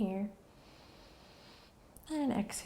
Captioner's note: inhaling